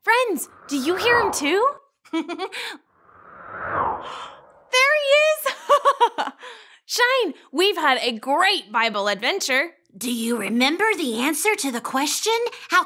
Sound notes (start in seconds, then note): 5.8 laughing